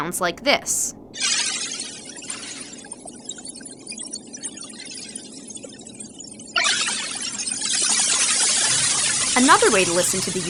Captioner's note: sound of electronic splashing and bursting